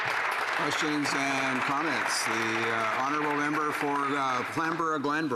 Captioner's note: applause